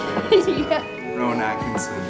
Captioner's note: chuckles